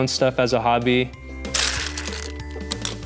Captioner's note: LEGO pieces rustle